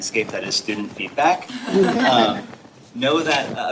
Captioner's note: laughter